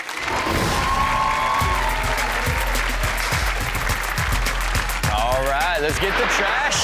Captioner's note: crowd cheers; rock music plays